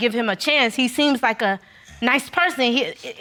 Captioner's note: none